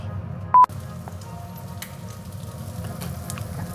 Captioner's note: beeping